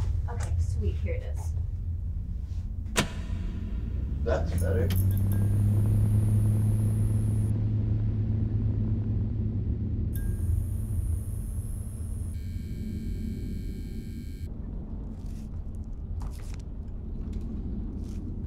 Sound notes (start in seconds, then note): 5.6 lights humming